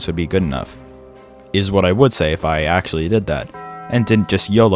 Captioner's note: taco bell bong